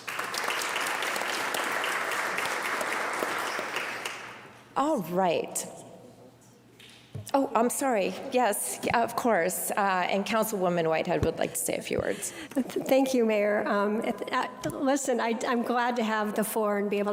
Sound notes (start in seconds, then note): 4.9 applause